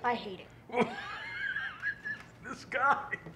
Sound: loud laughter

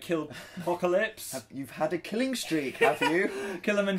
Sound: laughs

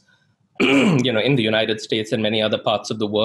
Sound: clears throat

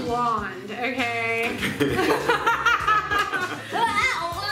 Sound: laughing

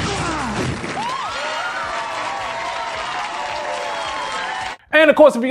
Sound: audience clapping and cheering

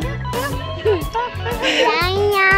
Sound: laughs

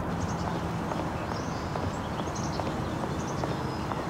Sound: birds chirping

